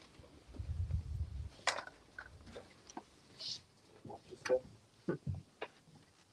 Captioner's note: indistinct chatter